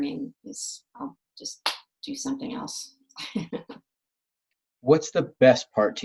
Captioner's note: laughs